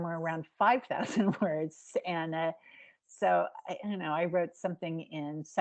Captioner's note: chuckling